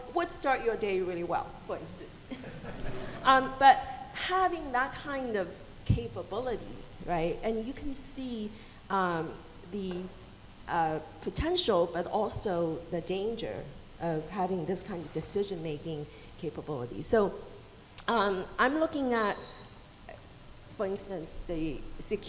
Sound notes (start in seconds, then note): 2.3 audience laughing softly